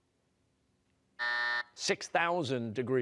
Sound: buzzer

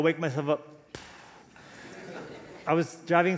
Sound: puffs

